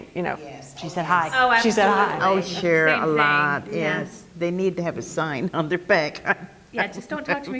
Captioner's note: laugh